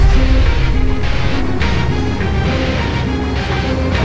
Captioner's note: engines rumbling